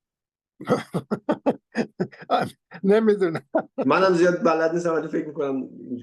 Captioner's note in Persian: خنده